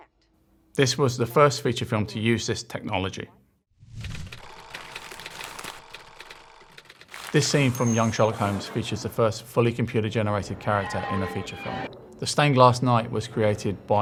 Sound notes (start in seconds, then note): 4.4 film reel clicking